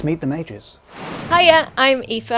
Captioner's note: air whooshing